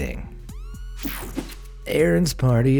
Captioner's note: air whooshing